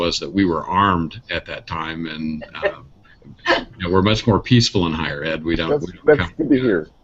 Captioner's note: laughter